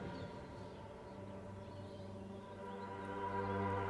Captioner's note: dramatic music; birds chirping; dramatic music